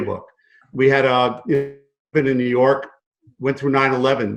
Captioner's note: audio glitch